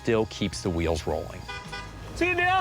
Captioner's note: horn honks